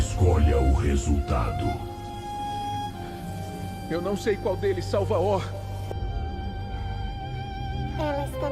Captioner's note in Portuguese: respiração pesada